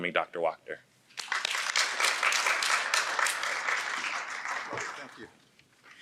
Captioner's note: audience applauding